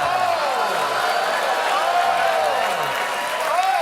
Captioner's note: audience reacts